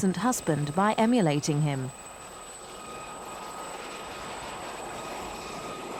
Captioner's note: helicopter whirring